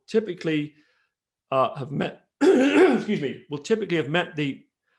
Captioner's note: clears throat